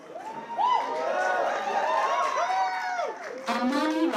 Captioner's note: cheers, applause